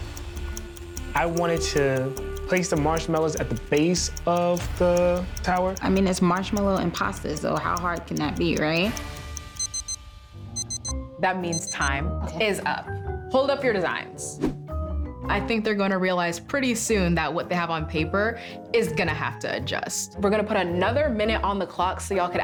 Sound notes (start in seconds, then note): 10.5 clock beeping